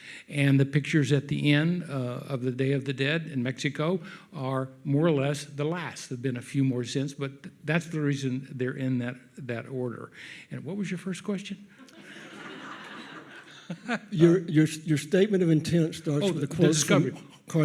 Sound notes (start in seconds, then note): 11.8 audience laughs